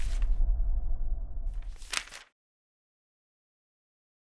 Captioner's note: soft shuffling